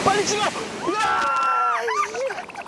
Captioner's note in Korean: 냅다 소리지르며 달린느 제작진